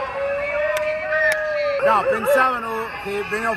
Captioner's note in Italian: Applauso